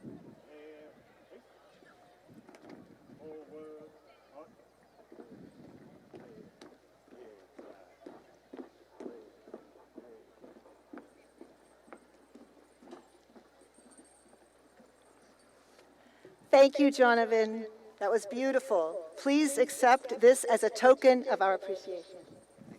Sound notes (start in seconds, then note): 5.4 marching footsteps